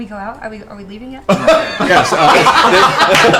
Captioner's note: laughter